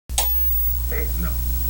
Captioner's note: TV clicks on